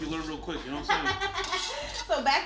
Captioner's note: laughing